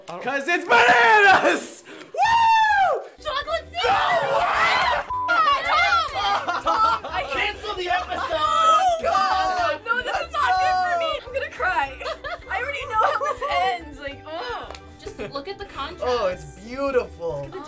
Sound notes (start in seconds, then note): 3.8 cheering